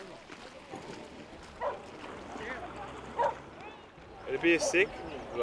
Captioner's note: dog barks